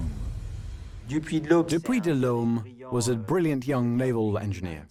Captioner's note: voiceover